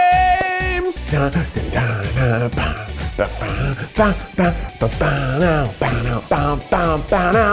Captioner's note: playful music; hums to music